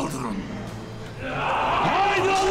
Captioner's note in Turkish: Haykırma sesi